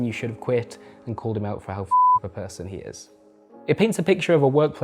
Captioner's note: beep